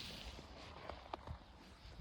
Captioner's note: snow crunches underfoot